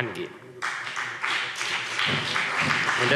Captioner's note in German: Beifall CDU und BÜNDNIS 90/DIE GRÜNEN